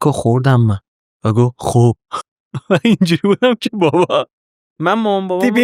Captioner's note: laughs